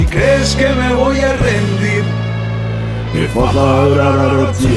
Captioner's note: non-english speech